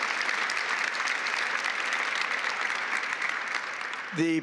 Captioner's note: applause